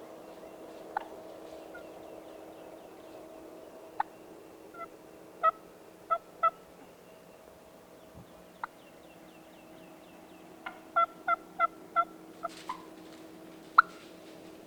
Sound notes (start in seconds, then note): 1.4 turkey calling